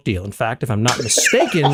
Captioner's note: laugh